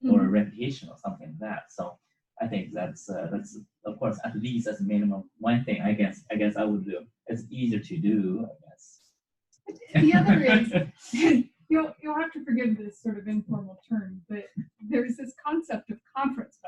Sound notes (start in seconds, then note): 9.8 laughter